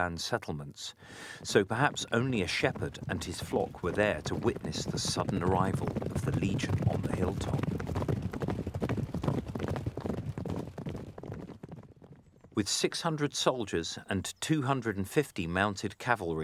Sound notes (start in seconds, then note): 7.4 sound of galloping hooves